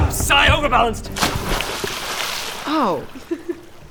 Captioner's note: splash; laughs